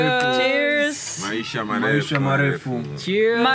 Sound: Swahili

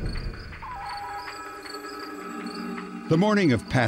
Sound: insects chirping

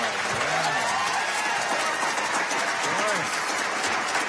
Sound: cheers and applause

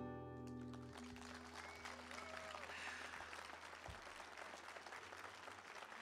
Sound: applause

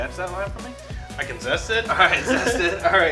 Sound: both laugh

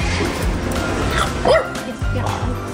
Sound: woof

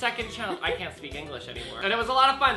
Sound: laughs

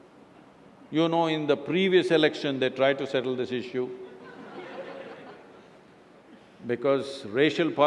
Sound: laughter

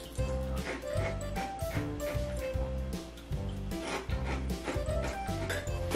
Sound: soft music; chewing

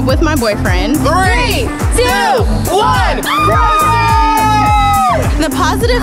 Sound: cheering

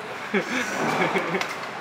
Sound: lol

